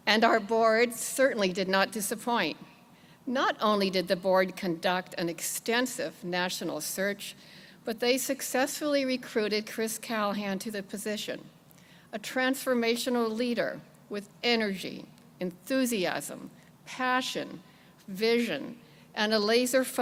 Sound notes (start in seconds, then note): none